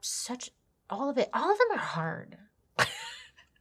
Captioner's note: laughs